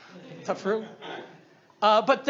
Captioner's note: audience laughs